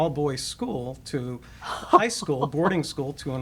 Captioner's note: laughing